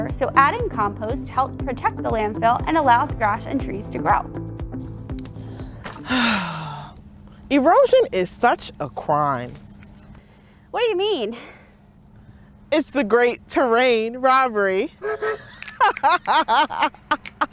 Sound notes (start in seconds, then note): 5.4 sighs; 15.0 laughing